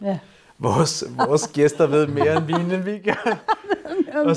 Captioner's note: laughs